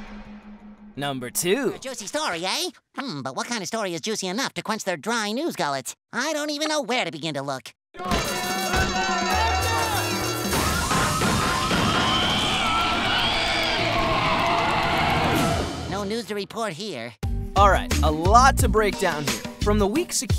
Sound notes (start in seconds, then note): 8.0 screaming, alarm sounding; 10.1 alarm sounding; 12.1 squealing